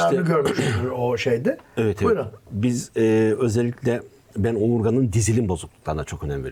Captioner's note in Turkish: boğazını temizler